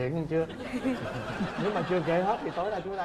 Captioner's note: laughing